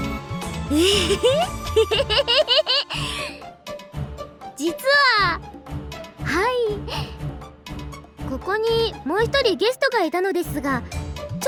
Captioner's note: giggle